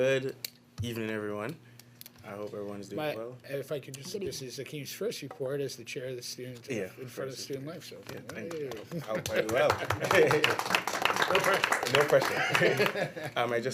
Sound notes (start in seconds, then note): 8.8 chuckles; 10.4 applause